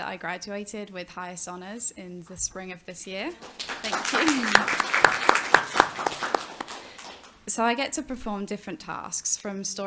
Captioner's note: applause